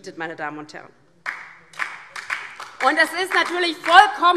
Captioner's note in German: Beifall DIE LINKE